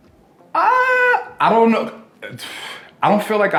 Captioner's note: sighs